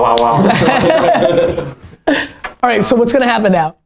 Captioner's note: laughter